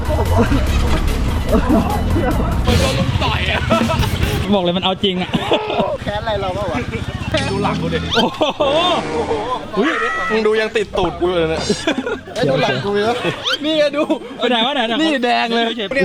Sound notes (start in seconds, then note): 0.0 chuckling; 3.7 chuckles; 5.9 chuckles; 11.0 chuckles